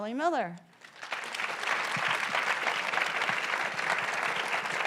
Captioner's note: audience applauds